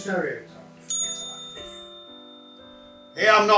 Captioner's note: bell ringing